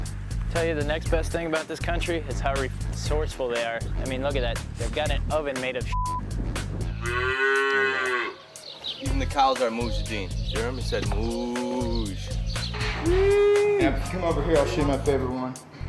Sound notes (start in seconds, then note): 7.0 cow moos